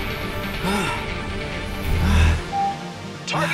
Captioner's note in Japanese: 荒い息